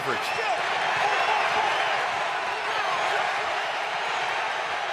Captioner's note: cheering